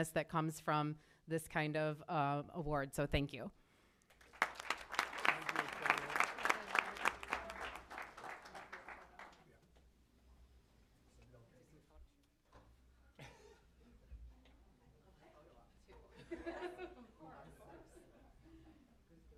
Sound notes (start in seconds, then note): 4.1 applause